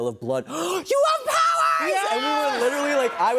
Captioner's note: gasps